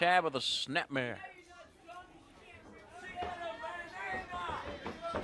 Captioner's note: crowd chatter